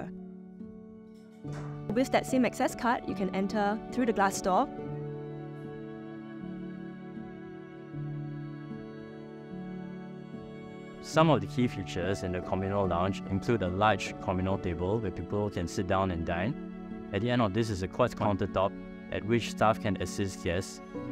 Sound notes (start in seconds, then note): 0.2 gentle music; 1.2 door opens; 4.8 gentle music